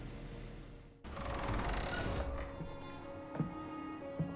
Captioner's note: the barn door creaks open